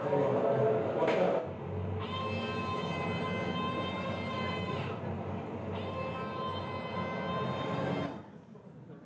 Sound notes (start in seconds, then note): 2.0 scream body wailing